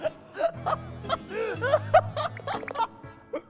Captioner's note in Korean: 하하 / 아하하하